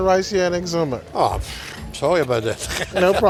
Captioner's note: laughs